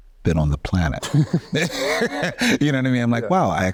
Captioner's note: both men laughing